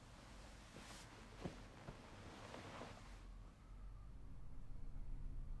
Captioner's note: sheet rustling